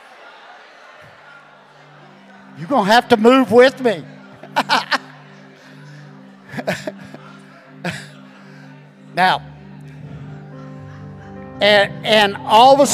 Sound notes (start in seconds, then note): 0.1 congregation laughing; 9.7 chuckling